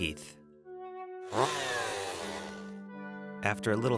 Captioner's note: chainsaw revs again